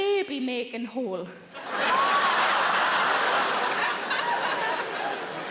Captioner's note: audience laughing